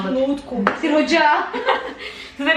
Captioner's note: laughing